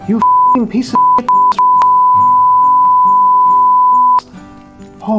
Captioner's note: beep beep beep, beeeeeep